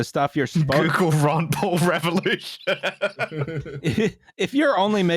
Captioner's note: laughing